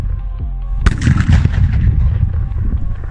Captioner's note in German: Knall